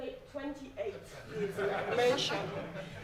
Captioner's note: laughing